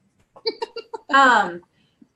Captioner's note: laughs